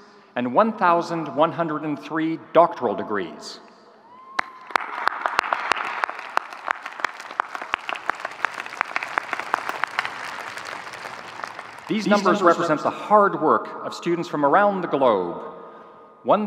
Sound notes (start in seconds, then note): 4.1 audience cheering